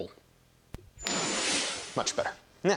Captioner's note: cosmic whoosh